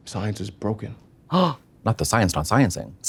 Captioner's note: Trixie gasps